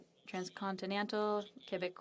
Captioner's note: speaking French